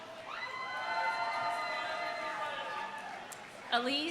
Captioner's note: audience cheering